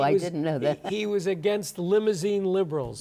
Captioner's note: chuckles